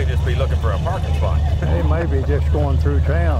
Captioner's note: laughs